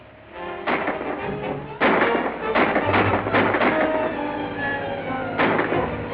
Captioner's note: gunshots